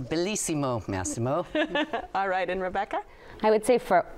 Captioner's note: chuckles